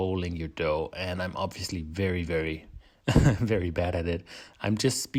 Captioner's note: laughs